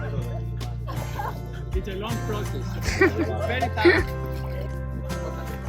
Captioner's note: just laughed